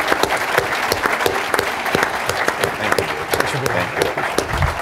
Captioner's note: applause